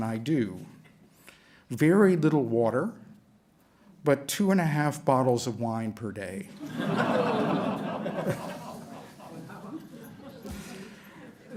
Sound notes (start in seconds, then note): 6.5 laughter